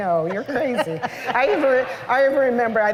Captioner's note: laughter